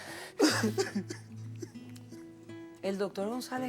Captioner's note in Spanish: Sollozos